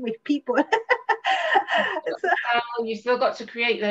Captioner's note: laughs